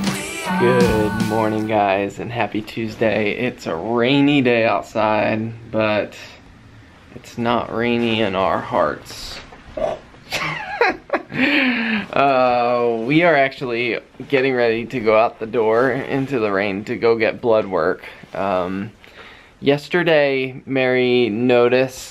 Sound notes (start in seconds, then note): 10.2 chuckling